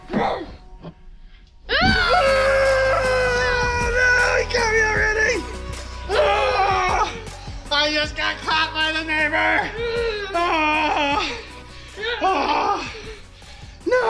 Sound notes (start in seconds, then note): 0.1 growls; 1.7 screams; 10.0 growls; 10.0 screams; 11.8 groans